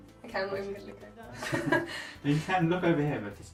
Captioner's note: laughing